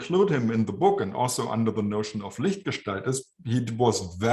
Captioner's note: german